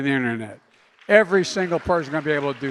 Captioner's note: applause